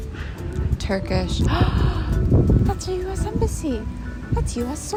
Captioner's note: gasp